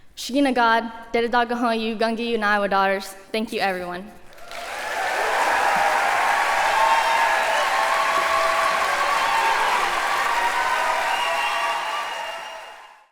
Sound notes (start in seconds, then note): 0.1 speaking native language; 4.9 applause; 4.9 cheers